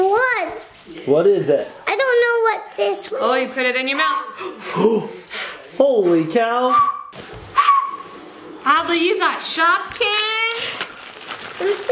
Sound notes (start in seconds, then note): 7.5 whistle